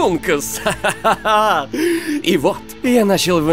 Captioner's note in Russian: смех